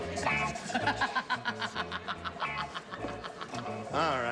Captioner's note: laughs